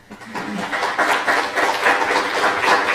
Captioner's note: applause